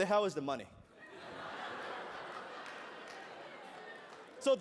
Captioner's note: laughter